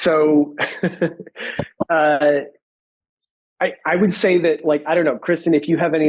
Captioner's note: giggles